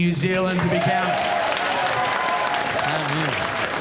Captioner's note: crowd cheering